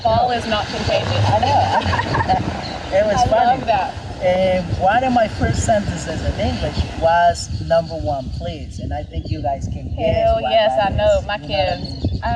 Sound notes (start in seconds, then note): 1.1 both laugh